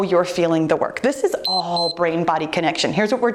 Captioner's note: timer beeps